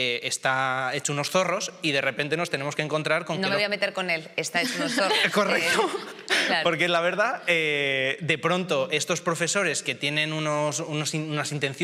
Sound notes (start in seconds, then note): 4.6 chuckles